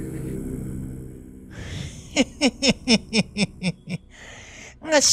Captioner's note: evil laugh